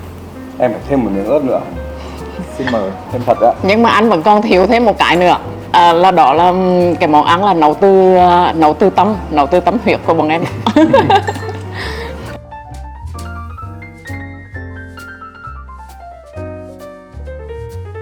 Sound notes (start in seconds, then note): 10.5 laugh